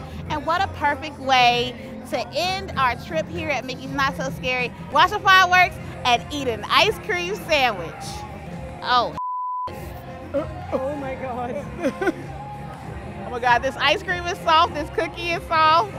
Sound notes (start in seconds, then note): 9.2 beep; 10.2 laughs